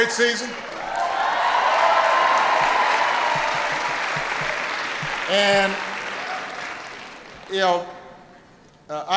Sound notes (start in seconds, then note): 4.6 applause